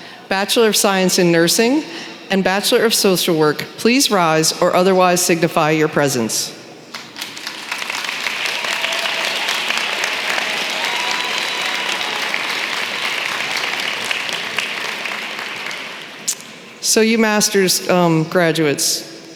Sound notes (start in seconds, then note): 7.5 applause